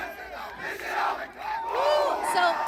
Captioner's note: crowd cheering